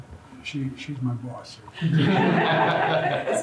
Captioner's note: laughter